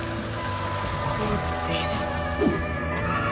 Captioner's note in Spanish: susurrando en off